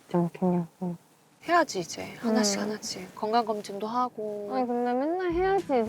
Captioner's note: aww